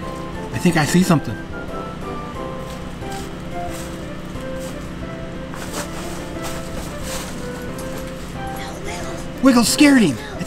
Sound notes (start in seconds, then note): 1.8 footsteps pattering; 2.3 leaves rattling